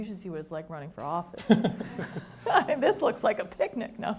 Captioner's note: laughs